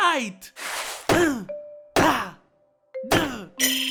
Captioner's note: yang grunts